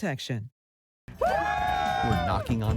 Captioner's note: crowd cheers